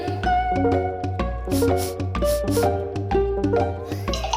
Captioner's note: sniff sniff